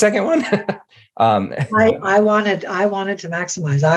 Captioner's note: laughing